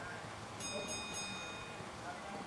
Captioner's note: boxing timer